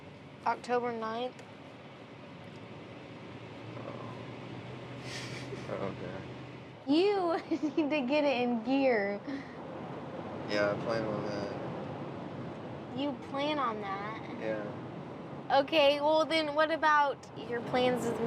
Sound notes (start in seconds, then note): 5.2 laughing